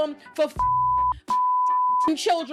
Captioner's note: beep